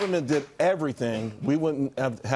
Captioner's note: applause